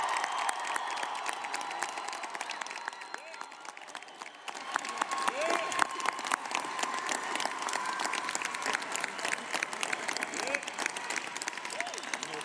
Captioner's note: applause